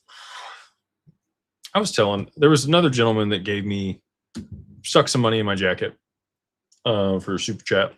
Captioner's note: sighs